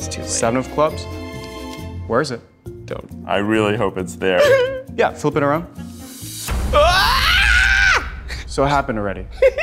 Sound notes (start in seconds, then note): 6.7 screams; 6.7 dramatic music; 9.4 giggles